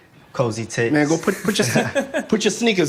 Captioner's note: laughing